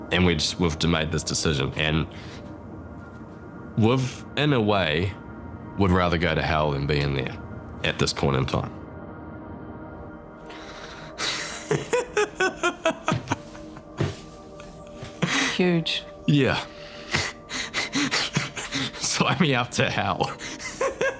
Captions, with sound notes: And we just— we've made this decision. And... in a way, we'd rather go to Hell than be in there at this point in time. (LAUGHS) - Huge. - Yeah. (CHUCKLES) Sign me up to Hell.